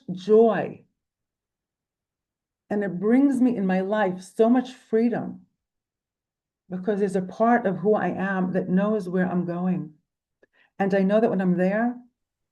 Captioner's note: in Hebrew